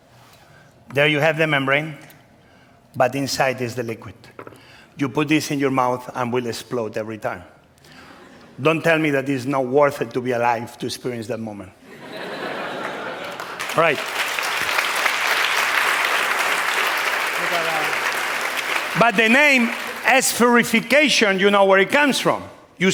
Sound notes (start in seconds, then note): 13.5 applause